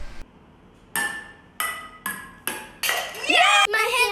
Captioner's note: ball pinging